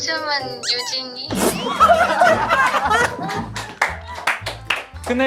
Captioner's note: burst out in laughter